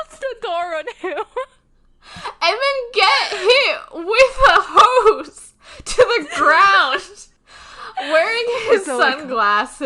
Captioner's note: both laughing